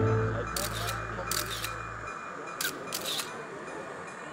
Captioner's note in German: Fotogeräusche